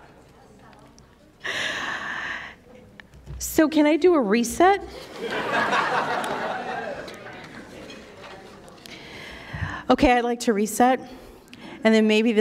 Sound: laughter

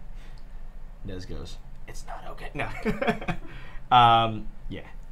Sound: laughing

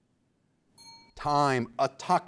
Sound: bell rings

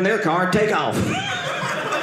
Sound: audience laughing

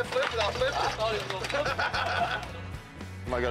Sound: laughs

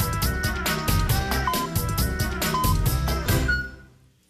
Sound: electronic beeping

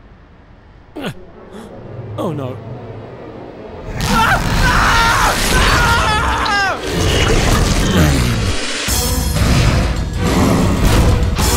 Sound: Tom screaming

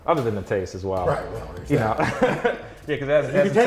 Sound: laughs

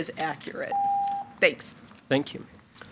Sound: timer beeps

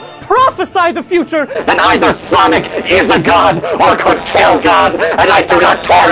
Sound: distorted, yelling

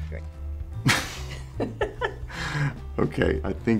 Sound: laughter

